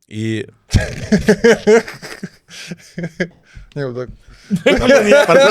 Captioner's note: laughs